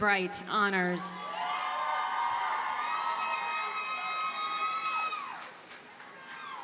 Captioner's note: audience cheers and applauds